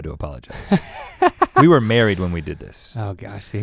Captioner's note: Link chuckles